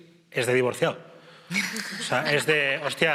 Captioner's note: laughter